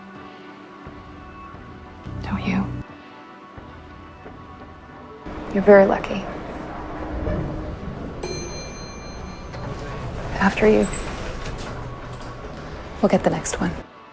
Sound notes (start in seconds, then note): 5.6 voiceover; 8.1 elevator door dings